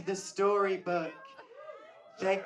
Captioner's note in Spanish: gritos del público